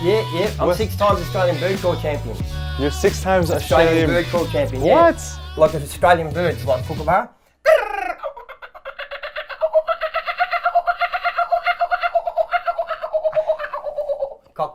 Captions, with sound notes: - Yeah, I'm six times Australian bird call champion. - You're six times Australian- - Bird call champion, yeah. - What? - Like of Australian birds like kookaburra. (imitates birds calling)